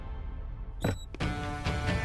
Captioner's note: Door opens